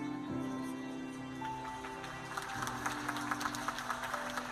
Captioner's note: applause